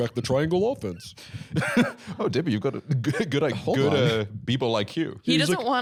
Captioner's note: laughs